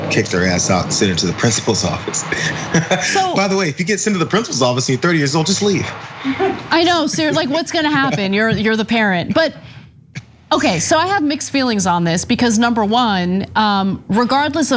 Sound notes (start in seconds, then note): 2.3 laugh